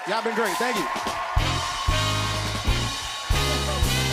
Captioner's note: cheers and applause